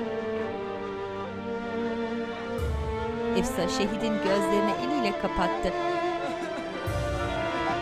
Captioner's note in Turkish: Müzik - Hüzünlü; İnleme sesleri